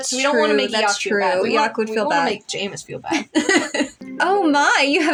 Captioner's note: laugh